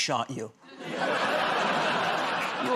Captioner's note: laughter